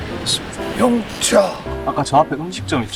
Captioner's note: scream